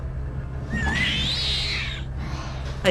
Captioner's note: awful exhaling noise